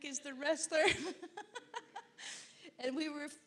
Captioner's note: laughing